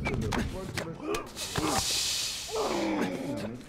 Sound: breathes sharply

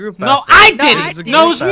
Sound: screaming over each other

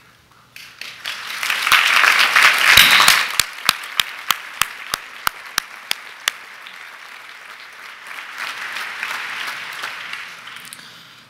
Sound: applause

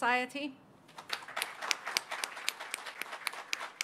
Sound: applause

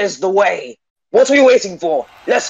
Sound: crowd

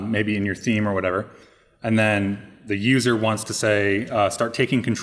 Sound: none

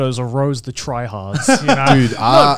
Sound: chuckling

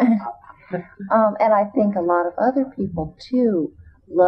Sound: laughter

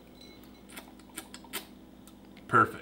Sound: slurping

